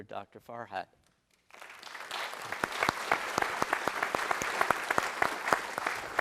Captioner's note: applause